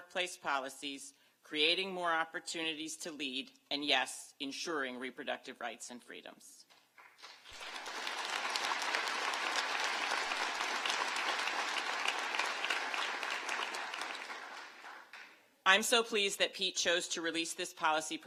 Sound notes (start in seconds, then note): 15.9 applause